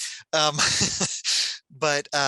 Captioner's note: chuckles